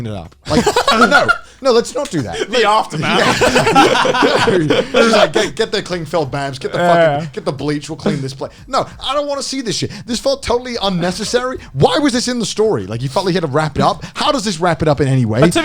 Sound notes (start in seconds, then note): 3.8 all laughing